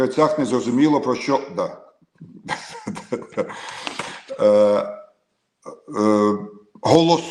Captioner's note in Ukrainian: сопіння